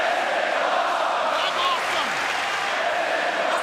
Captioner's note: crowd cheering